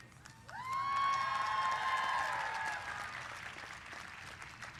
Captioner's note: cheers and applause